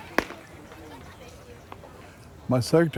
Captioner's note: bat striking